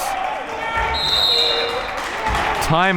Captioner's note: whistle blaring